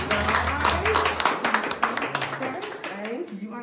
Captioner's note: clapping